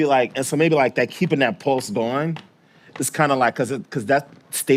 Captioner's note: tapping foot